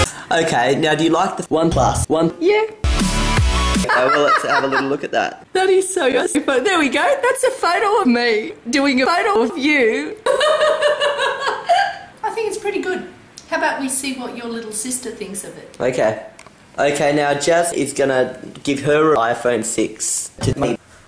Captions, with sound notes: Ok, now, do you like the OnePlus One? Yeah. (laughing) Have a little look at that. That is sos but there we go. That's a photo of me doing a photo of you. Hahaha! I think it's pretty good. How about we see what your little sister thinks about it. Ok. Ok, now, Jas is gonna give her iPhone 6 to me.